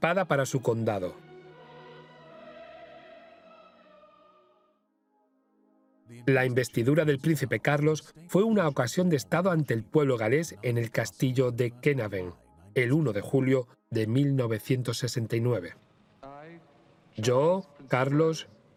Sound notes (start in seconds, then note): 0.0 choir singing; 5.3 voiceover